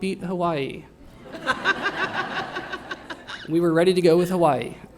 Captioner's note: laughter